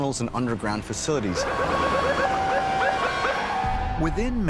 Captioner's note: siren blaring